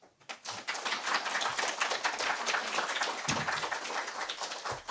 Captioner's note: applause